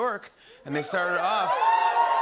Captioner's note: cheers